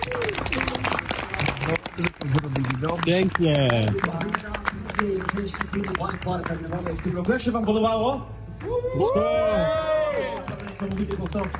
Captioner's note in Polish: Aplauz